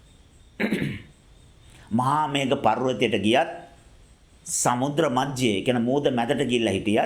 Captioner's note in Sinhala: උගුර කෑරීම